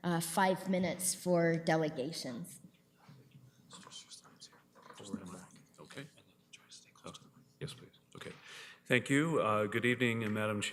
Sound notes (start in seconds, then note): 4.7 whispering